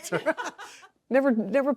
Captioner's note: laugh